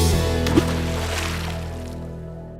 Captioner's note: water splash